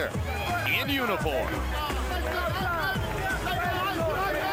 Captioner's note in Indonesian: Tepuk tangan